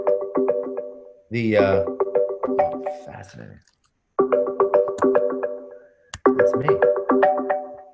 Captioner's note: phone ringing